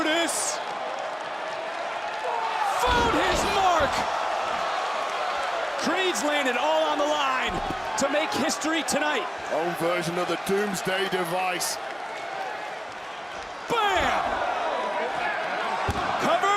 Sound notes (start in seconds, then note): 0.1 crowd cheers; 4.4 crowd cheers